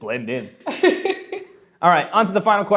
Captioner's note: laughs